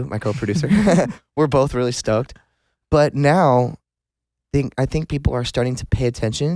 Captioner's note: laughs